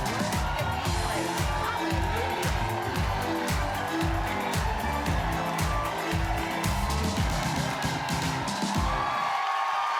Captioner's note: cheers and applause